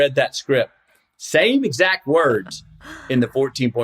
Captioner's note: laughs